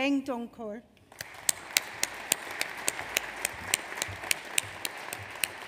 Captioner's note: audience applauds